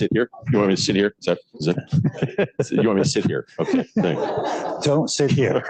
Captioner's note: laughter